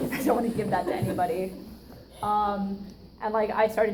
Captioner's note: audience laughs